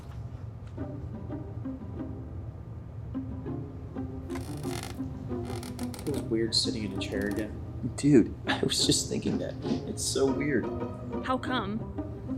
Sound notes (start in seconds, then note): 1.0 upbeat mysterious music; 4.2 chair squeaking